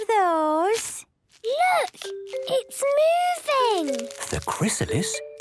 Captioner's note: whispering